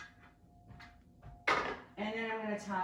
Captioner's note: plate clanks